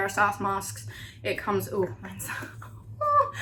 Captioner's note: chuckles